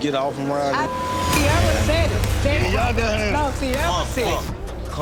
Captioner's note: beep